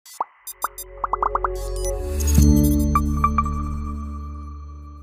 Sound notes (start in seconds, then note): 0.4 graphics popping; 1.6 logo chimes